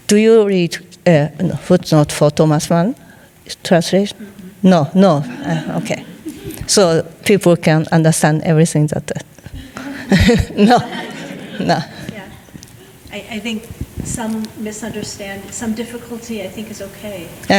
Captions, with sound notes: Do you read footnotes for Thomas Mun translation? No, no. Okay. (some laughing) So people can understand everything that- No, no. (audience laughing) - Yeah. I think some misunderstand, some difficulty I think is okay.